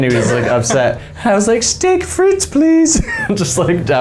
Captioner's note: laughing; using high pitched voice